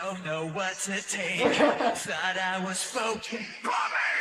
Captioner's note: laughs